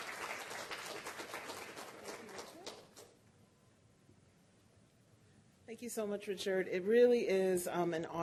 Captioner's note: applause